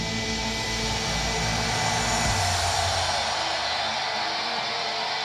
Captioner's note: crowd cheering